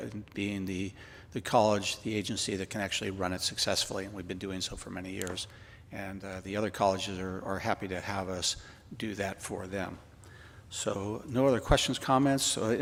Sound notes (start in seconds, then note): none